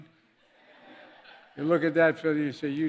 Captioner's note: laughter